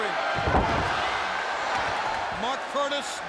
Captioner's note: body thudding